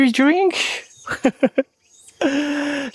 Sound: laugh

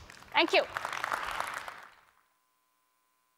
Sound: applause

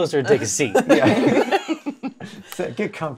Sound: laughter

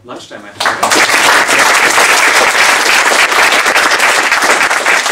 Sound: applause

